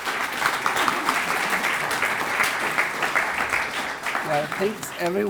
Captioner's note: audience applauding